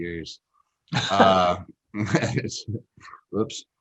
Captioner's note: both laugh